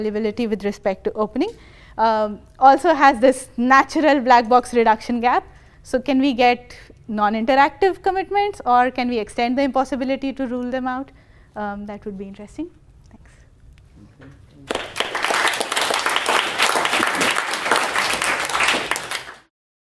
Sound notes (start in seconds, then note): 14.6 applause